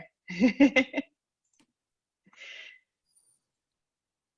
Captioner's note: laughter